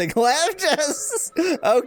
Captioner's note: laughs